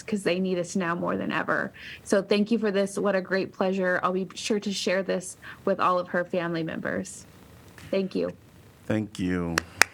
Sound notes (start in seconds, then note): 9.5 applause